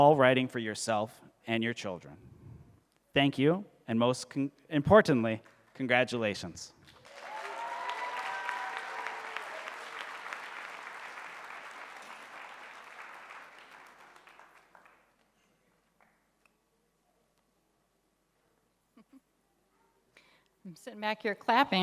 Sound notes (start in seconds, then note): 6.8 audience applauding